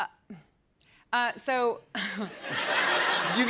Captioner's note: chuckles